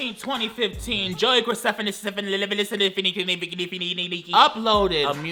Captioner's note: stutters